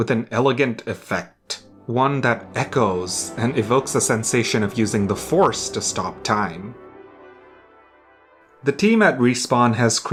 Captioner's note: echoes